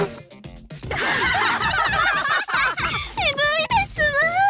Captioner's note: laugh